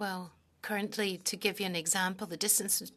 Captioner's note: speaking French